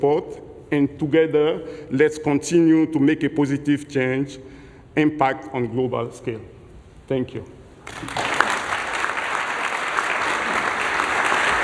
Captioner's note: applause